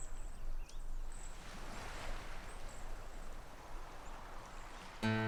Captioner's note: waves crashing